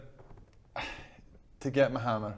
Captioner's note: sigh